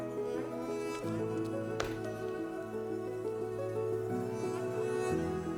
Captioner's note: spatula scuffing